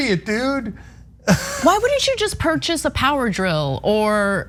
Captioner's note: laugh